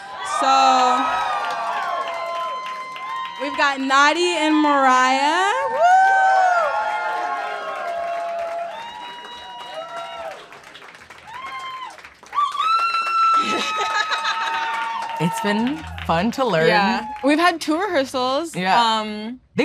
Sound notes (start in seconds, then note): 6.6 audience cheering; 12.2 audience member screaming; 13.4 laughing